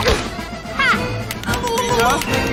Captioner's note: slapping